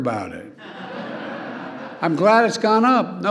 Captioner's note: laughter